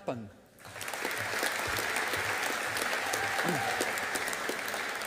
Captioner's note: audience applauding